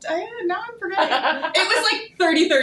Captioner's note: laughing